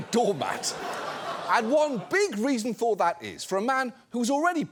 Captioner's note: audience laughs